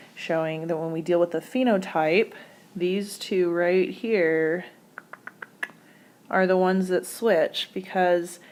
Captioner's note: clicking tongue